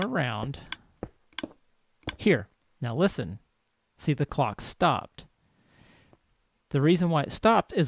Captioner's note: clicking stops